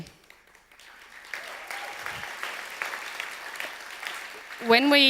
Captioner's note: audience applause